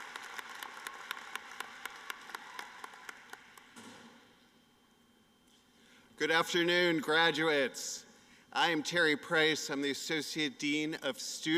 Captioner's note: applause